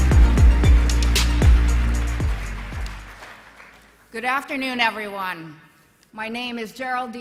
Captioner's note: applause